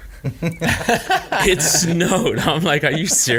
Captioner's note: all laughing